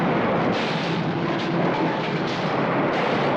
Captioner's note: crash